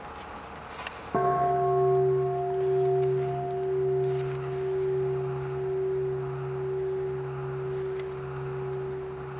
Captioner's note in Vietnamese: chuông